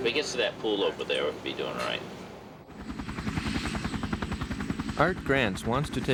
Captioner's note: helicopter engine roaring